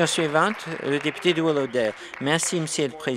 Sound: applause

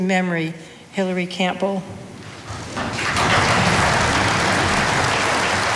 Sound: audience applauding

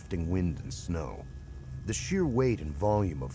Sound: voiceover

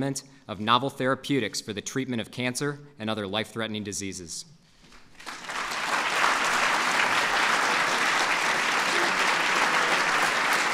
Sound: applause

